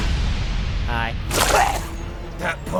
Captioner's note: vomits red wine